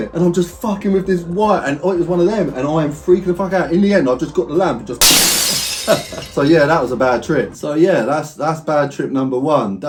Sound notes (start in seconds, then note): 5.0 glass smashes